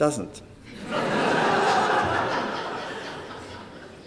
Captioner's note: laughter